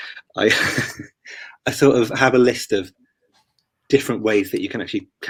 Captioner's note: laughs